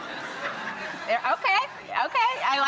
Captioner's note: audience laughs